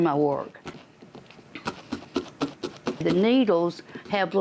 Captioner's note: rhythmic thumping